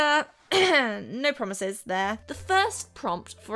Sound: cough cough

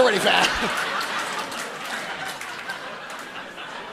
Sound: audience laughing

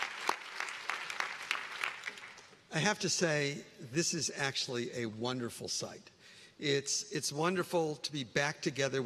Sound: cheering; applause

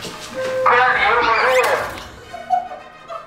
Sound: slipping; laughing

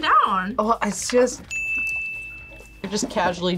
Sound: bell rings

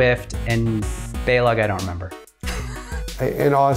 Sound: laughs

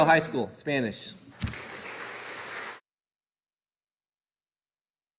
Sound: audience applauding

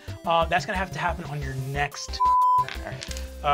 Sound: beep

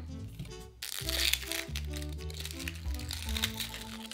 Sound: onion paper peeling

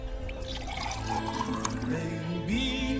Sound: doogh pouring; music playing in the room

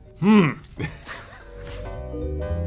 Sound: laugh

